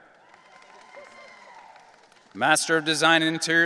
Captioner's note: audience cheering